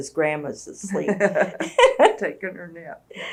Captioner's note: laugher